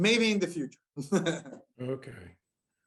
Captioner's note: laughter